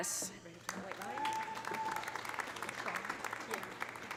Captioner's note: audience applauding; audience cheering